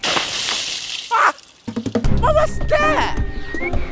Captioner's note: yelps